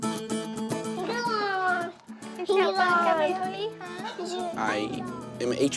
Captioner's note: children chattering